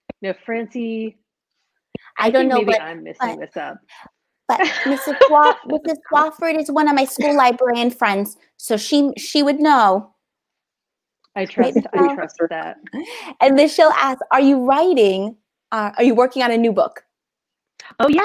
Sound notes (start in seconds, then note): 4.5 laughing